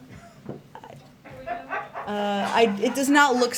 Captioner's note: laughter